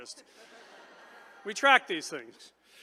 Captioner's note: attendees chuckle